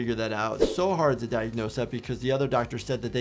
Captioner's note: air whooshing